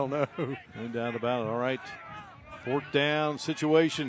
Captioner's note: laughter